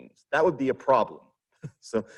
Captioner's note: chuckles